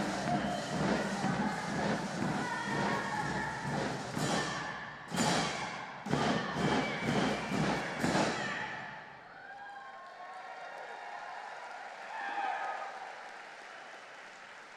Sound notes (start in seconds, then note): 9.2 audience cheering and applauding